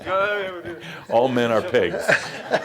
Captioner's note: laughter